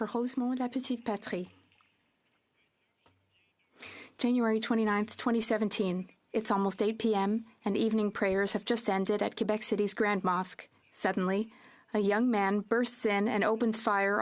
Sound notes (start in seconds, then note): 5.6 speaking French